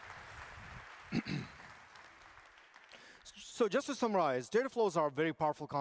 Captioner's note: applause